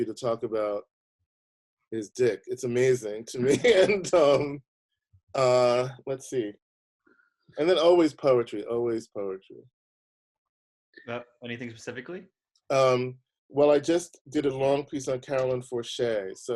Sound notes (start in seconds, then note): 3.3 laughing